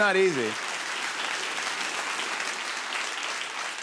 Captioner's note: applause